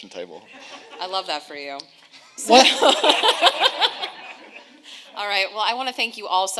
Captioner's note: audience laughing